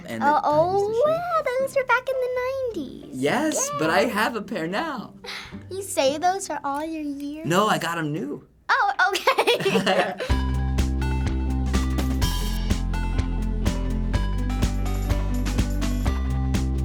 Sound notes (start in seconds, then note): 9.1 laughs; 9.1 giggles; 10.2 upbeat theme music